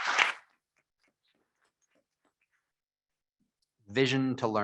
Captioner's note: members clapping